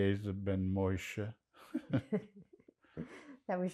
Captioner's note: laughing